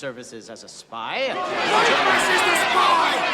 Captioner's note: clamoring